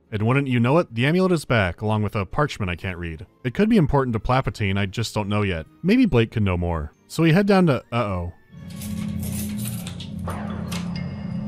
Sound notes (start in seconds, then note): 8.7 jangling of keys